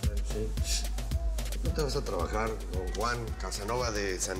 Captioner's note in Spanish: Susurra